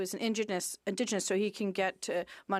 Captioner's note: speaking French